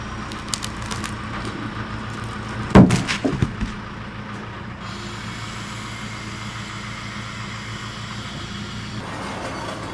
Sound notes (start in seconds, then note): 1.9 log thumps; 2.7 hydraulics hum